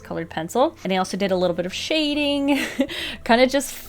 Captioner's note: chuckles